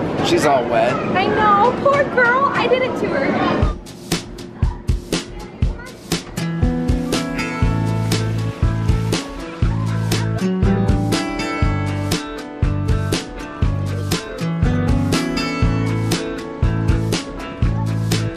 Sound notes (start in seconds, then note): 4.3 upbeat tempo music; 4.3 water splashing